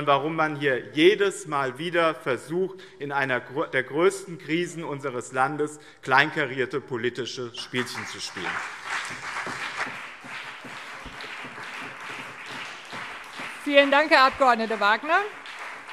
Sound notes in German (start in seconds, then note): 9.1 Beifall BÜNDNIS 90/DIE GRÜNEN und CDU - Zurufe